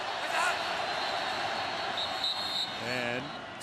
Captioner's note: whistles